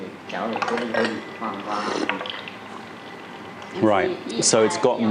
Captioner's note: sips tea